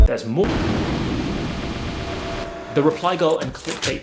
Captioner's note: static buzzing